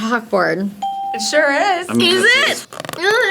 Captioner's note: bell rings